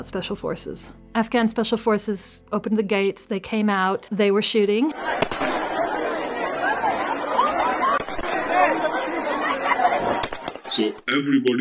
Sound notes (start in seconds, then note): 4.9 crowd shouting; 5.1 gunfire blaring